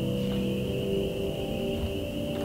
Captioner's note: crickets